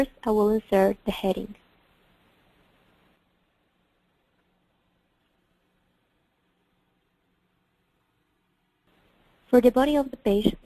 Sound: pause

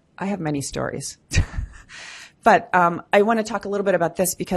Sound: laughs

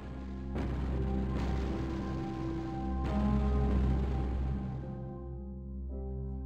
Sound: somber music; explosions boom

